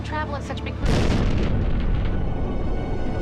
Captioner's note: crash